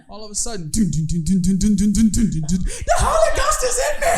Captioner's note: humming